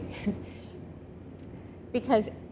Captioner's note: chuckling